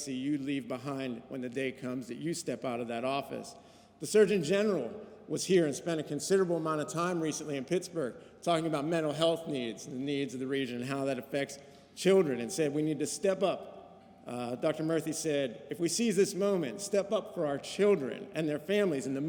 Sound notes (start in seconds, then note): none